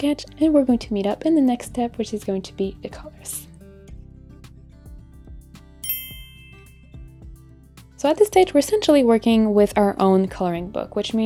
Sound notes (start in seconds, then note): 4.0 gentle upbeat music; 6.0 clinks